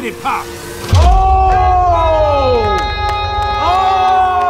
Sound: crowd shouting

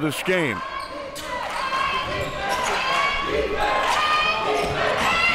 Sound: crowd cheering

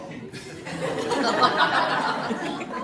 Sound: laughter

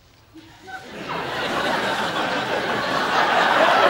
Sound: audience laughing

